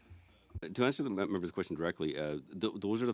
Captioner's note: speaking French